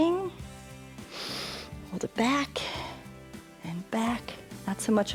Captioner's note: inhales